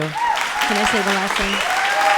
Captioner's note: audience applauding